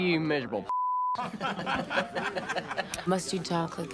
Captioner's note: laughing